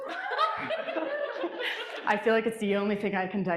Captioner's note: audience laughing; audience cheering